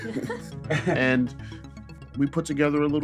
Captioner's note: laughter